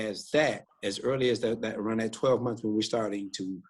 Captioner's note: speaker speaks in a low voice